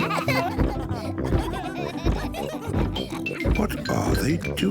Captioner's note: giggling continues; kids giggling; thumping